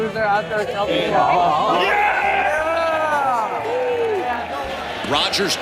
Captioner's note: crowd Cheers